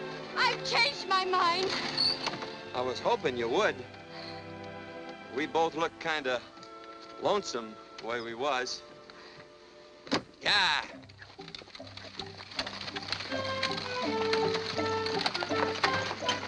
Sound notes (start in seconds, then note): 10.4 wheels rattles